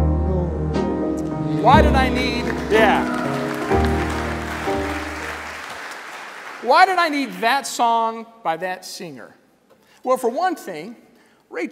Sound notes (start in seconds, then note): 3.3 applause